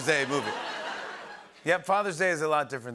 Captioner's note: laughter